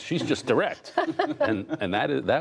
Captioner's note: laughter